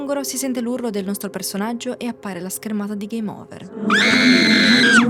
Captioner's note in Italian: urlo